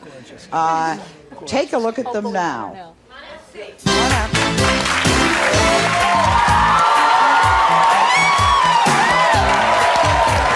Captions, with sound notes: Thank you. Take a look at them now. Come out and see. Come on out. (applause) (upbeat music) (screams)